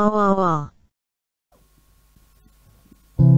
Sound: silence

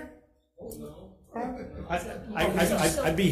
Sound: attendees laughing

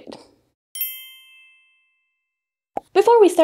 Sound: bells chiming

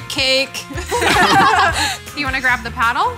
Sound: laughing

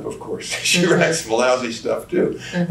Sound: laughs

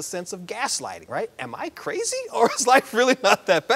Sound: laughs

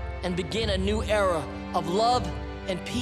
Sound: none

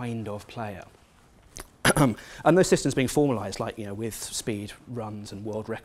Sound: cough

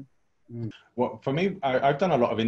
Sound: laughs

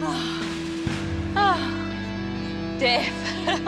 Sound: breathing heavily

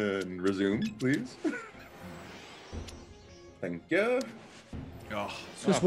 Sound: laugh

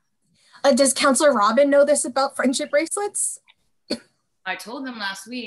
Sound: cough

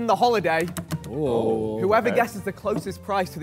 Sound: Sidemen sigh

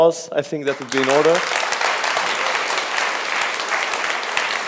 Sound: applause

